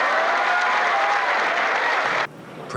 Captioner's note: applause